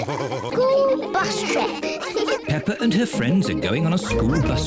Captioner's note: giggling